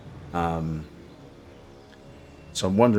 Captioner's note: silence